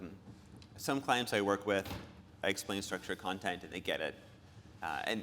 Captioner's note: none